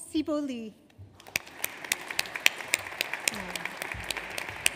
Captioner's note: audience applauds